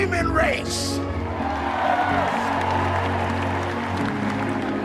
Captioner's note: applause